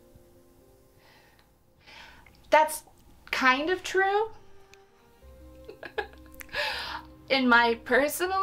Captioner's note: chuckles